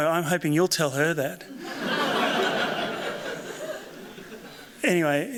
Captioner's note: laughter